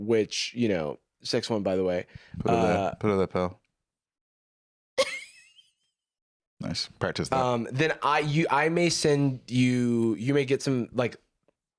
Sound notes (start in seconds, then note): 5.0 laughs